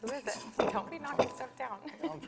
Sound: laughs

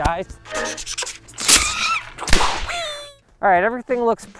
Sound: air whooshing

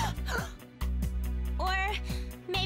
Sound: gasps

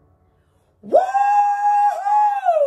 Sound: cheering

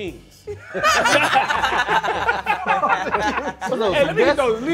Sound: group laughing

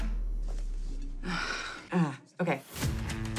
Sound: sighs

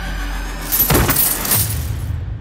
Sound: coins clinking

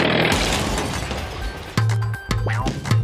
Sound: crash

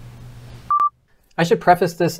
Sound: beeping

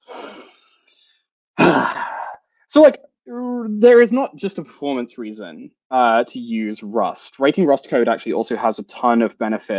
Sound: sighs

